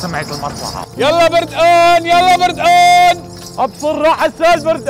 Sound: shouting

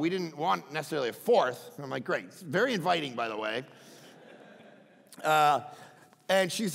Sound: crowd laughing

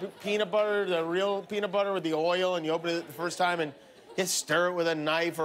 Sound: laughter

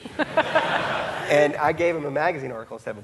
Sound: audience laughing; laughing

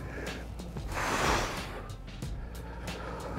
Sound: exhale

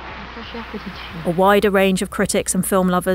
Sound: speaking foreign language

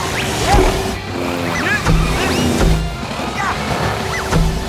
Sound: grunting

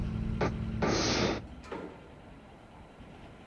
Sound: dull booming thump, spitting sound

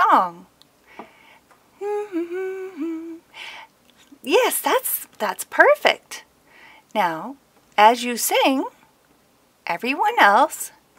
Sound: Twilight Sparkle hums a tune

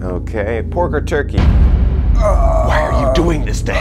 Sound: ominous music; introvert groaning

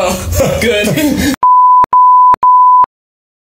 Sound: beep

